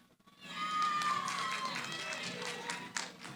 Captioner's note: cheering